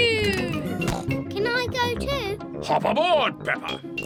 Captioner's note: snorts